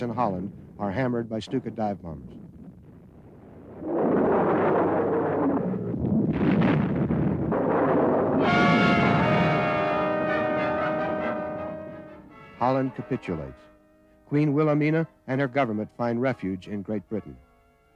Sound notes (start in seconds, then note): 3.5 explosions; 4.0 plane engine roars; 8.4 dramatic music